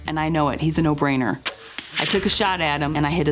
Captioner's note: arrow Thwap